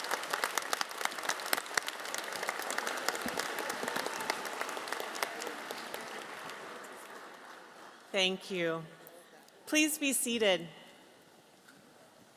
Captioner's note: applause